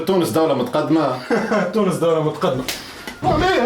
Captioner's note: laugh